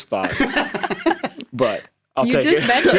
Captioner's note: laugh